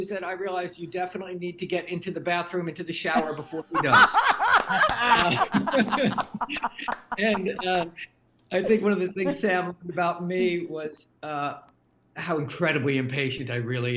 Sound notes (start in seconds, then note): 3.1 everyone laughing